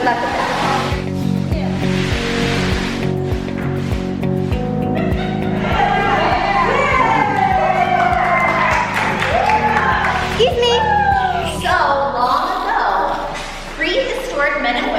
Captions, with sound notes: Good luck with that. (crowd shouting and cheering) - Excuse me. - So long ago, prehistoric men